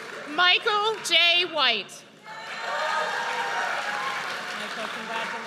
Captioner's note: audience cheers